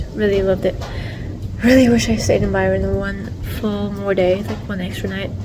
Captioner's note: sigh